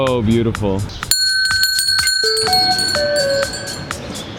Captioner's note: bells chiming